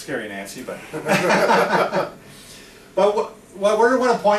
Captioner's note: both chuckling